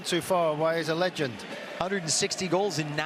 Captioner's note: booing